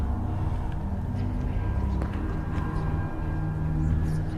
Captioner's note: footsteps